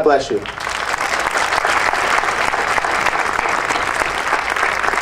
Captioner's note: audience applauding